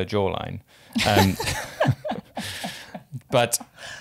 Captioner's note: both laugh